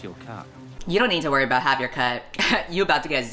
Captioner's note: laughs